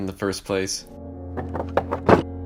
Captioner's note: doorknob rattling